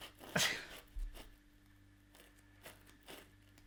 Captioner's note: laughing